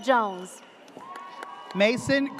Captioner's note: audience cheers